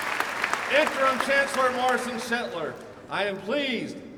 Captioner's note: applause